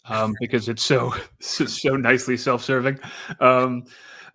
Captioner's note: laughs